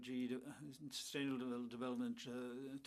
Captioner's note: speaking French